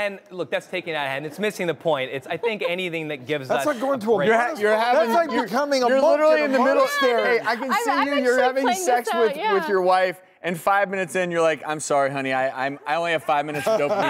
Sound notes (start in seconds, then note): 4.3 speaking over each other, laughing